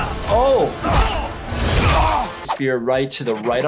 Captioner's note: characters grunting